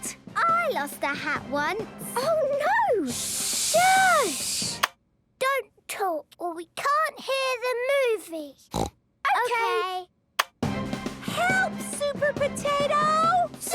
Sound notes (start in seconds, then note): 3.0 all shushing; 8.7 snorting